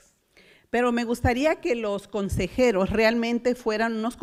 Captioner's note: foreign language